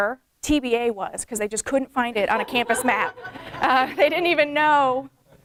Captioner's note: laughter from audience